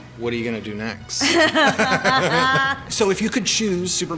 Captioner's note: laughter